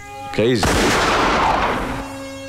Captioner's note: Gunshot